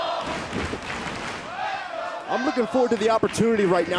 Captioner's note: crowd cheering